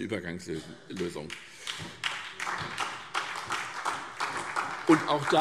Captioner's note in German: Beifall SPD